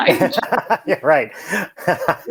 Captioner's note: laughs